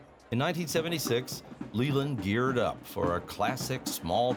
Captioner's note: drums beating in distance, crowd talking in background